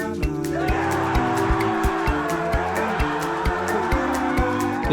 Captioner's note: all cheering